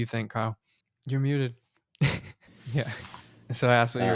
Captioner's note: laughing